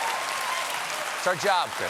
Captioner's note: cheers and applause